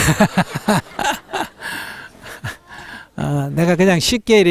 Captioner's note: audience Laughter